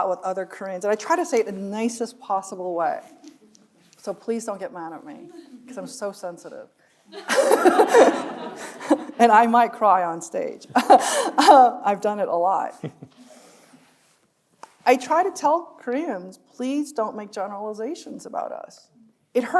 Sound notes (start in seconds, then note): 7.2 audience laughing; 7.2 laughing; 11.1 chuckling; 12.8 chuckles